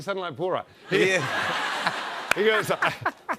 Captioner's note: laughter